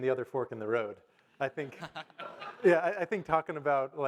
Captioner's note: audience laugh